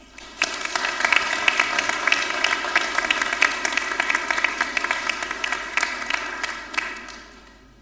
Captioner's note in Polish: oklaski